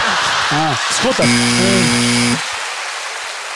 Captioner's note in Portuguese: campainha